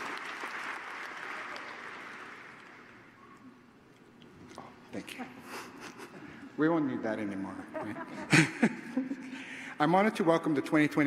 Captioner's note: cheers and applause